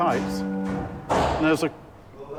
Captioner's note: items clattering